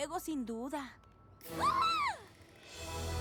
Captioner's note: shriek